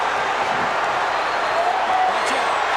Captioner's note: crowd cheers